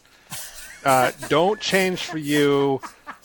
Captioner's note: snickering & laughter